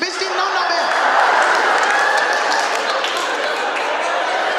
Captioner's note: audience laughing